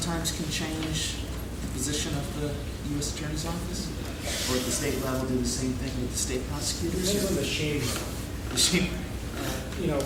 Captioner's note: laughing